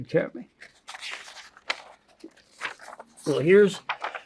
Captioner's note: paper crinkling